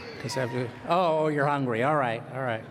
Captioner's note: laughs